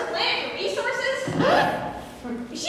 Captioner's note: record scratch